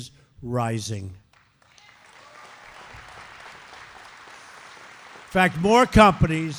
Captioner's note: applause